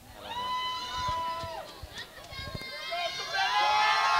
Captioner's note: crowd cheering